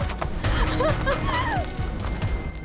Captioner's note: gasps